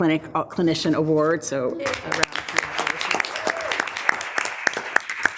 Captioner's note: group applauds